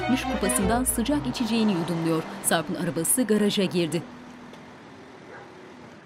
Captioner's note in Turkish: Araba motor sesi